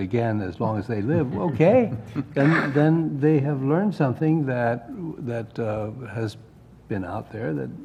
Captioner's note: laugh